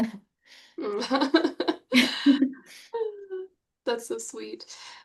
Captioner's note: chuckle; chuckles